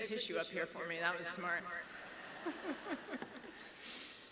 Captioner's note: laughs